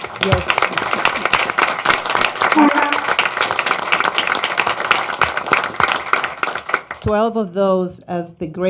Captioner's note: applause